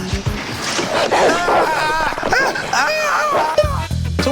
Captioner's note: growling, snarling